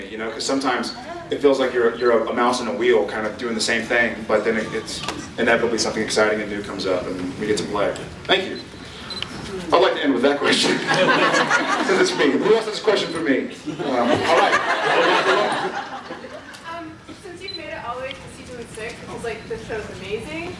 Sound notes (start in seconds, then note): 10.5 laughs